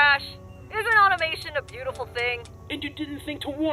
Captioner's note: trigger Clicking